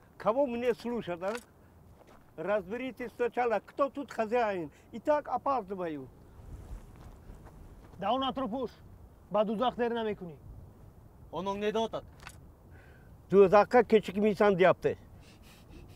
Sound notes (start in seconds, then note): 10.6 in Tajik